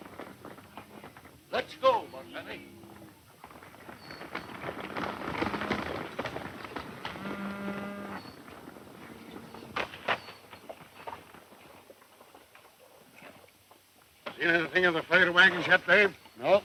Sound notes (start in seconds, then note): 5.0 cows mooing; 5.0 running hoof beats